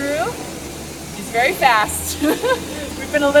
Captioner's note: laughs